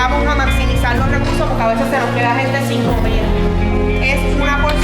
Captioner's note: speaking in Spanish